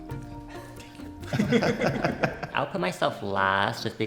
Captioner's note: everyone laughs